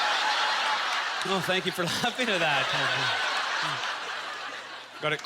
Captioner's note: aience laughter; audience laughter